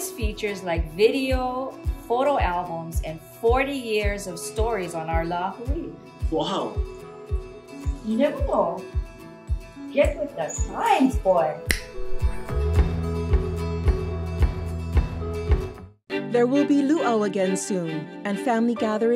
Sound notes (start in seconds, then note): 11.2 upbeat music; 11.6 fingers snapping